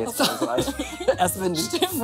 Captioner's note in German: beide lachen